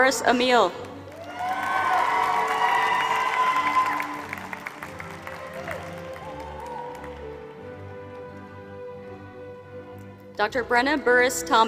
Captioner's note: applause